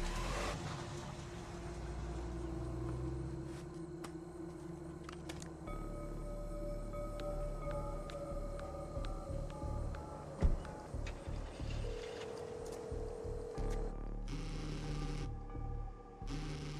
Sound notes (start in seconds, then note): 6.6 cell phone keys beeping; 11.0 car engine starts; 11.0 phone line ringing; 14.2 phone vibrating